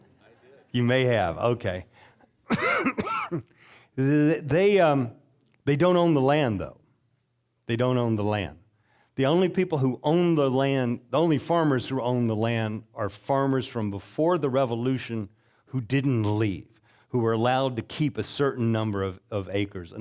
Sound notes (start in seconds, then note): 2.1 audience chuckling; 2.4 coughing